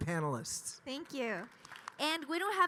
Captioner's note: audience applauding